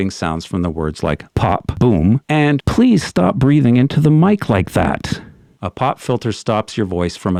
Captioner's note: pop, boom